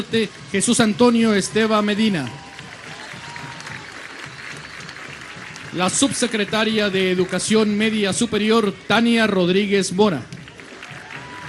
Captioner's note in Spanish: aplausos